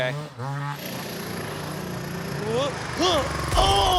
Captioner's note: engine roaring